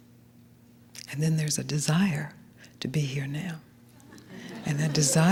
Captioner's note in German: Gelächter